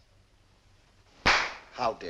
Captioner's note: clap